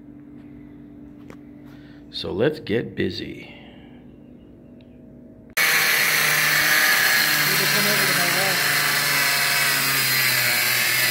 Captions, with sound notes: So let's get busy. (whirring and grinding)